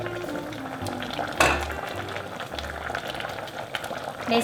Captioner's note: bubbling sounds